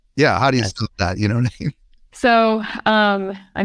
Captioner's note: laughs